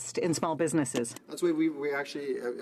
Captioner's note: speaking French